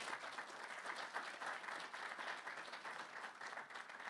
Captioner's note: audience clapping